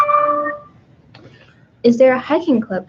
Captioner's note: computer dings